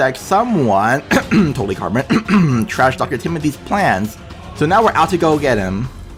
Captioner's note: cough